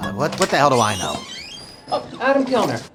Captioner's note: door squeaking